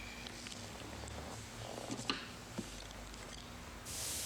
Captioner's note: none